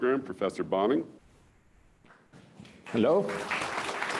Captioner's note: applause